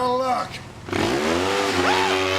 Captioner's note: ATV engine roaring; Jerry shrieks